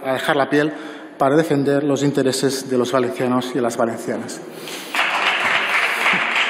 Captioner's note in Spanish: Aplausos